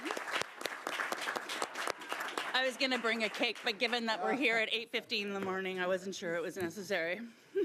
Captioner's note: applause